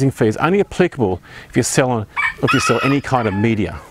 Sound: rooster crowing

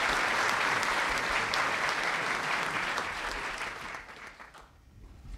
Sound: applause

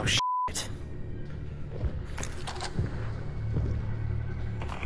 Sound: footsteps coming from above

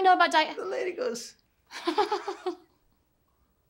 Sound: chuckling

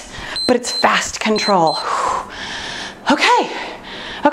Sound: timer beeps

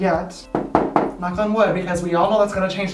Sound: knocking

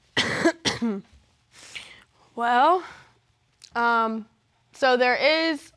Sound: coughs

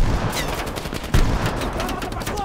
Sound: gunfire

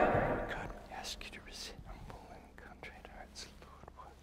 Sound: whispering

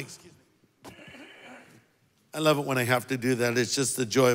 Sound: coughs

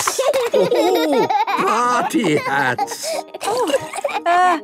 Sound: laughing

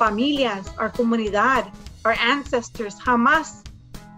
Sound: speaks in foreign language

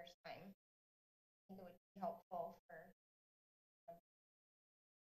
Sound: audio cuts

